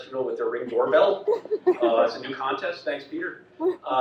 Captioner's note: audience laughs